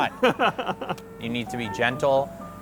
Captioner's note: laughing